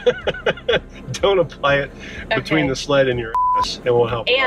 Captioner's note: laughs; beep